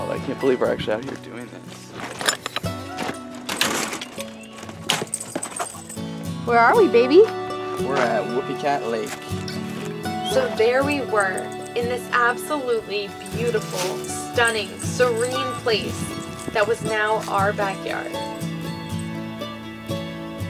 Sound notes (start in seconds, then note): 3.3 door opening, dog collars jingling